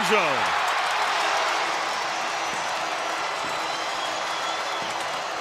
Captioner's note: crowd cheering